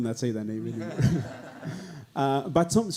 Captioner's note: audience laughing